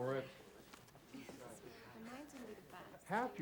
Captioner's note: students chattering